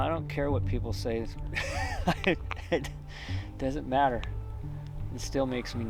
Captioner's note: laughing